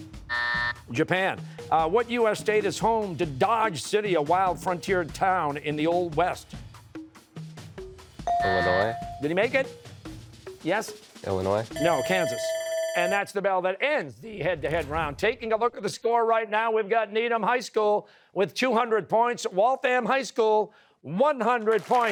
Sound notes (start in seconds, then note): 0.3 buzzer; 8.3 buzzer, bell dinging; 11.7 bell ringing